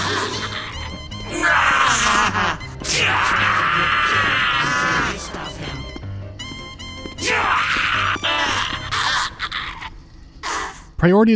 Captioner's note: sounds of frantic skirmish, interspersed with death rattles; sounds of self-immolation for political reasons